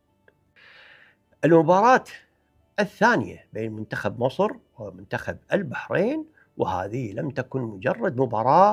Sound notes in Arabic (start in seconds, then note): 0.6 شهيق